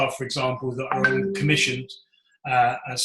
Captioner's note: computer alert pings